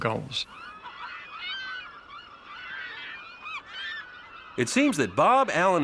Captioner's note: gulls squawking